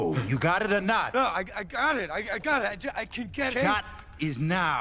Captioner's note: stuttering